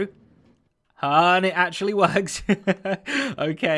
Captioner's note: chuckles